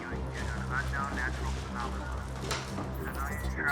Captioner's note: radio broadcasting; more robotic beeps heard